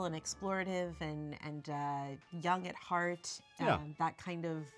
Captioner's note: laughs